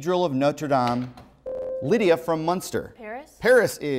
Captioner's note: buzzer